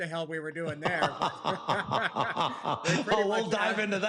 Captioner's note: laughter